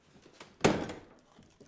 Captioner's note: door clicks locked